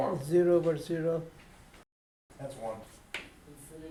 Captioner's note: voiceover